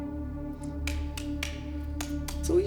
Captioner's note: whip slapping